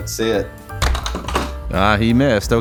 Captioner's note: bonk!